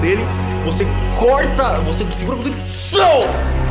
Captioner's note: cutting sound effect